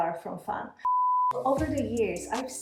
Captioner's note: beeping